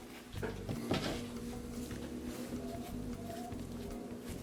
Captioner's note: fan whirring